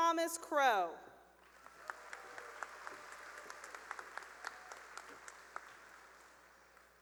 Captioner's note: cheering and applause